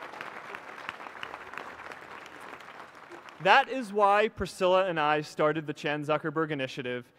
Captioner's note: applause